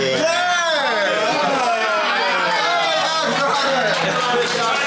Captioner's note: people laughing; people chattering